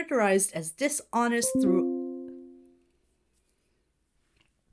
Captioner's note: notification dings